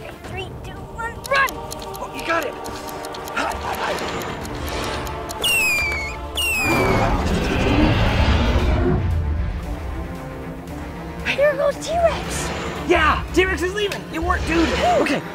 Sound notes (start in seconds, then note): 5.4 Screech; 6.6 roar